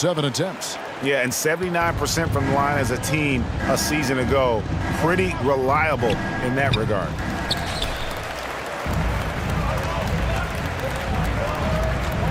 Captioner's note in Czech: Potlesk